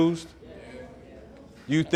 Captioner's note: crowd